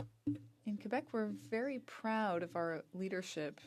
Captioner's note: speaking French